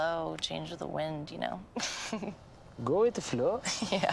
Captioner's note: chuckles; 笑声; 轻笑